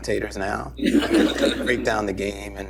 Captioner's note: laughter